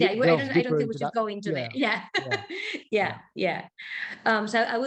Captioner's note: laughing